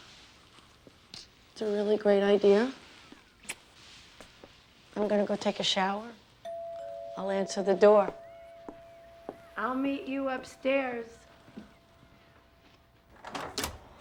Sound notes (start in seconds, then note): 6.4 doorbell rings